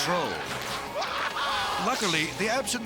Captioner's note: yelling